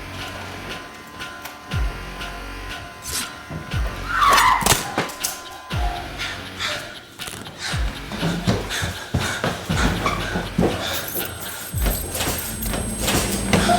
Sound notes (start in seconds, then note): 4.0 Paige screaming; 7.1 dramatic music